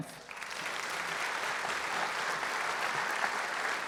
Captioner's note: applause